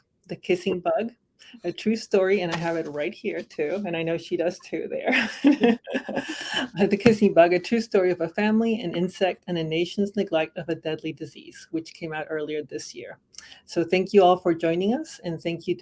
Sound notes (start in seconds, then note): 5.1 laughter